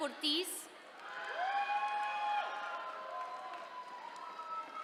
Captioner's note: attendees cheering